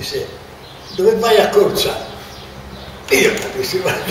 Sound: in Italian

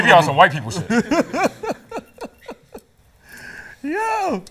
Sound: laughs

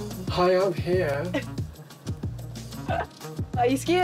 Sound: chuckles

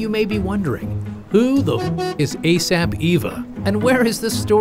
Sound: car horn beeps

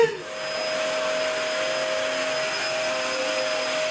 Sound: vacuuming

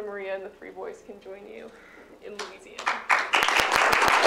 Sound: applause

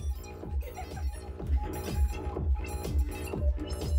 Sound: laughing

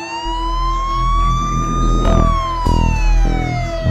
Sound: police siren

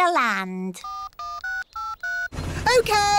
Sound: dialing

